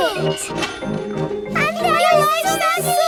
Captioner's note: cash register dinging